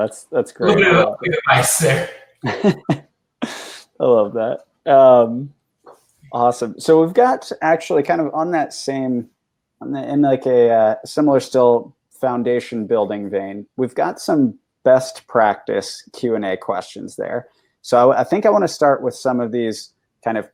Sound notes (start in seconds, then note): 2.4 chuckles